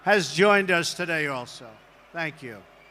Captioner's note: applause